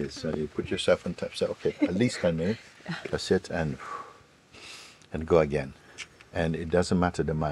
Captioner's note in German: atmet aus